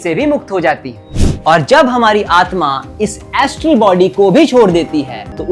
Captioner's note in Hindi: नाक से की जाने वाली आवाज़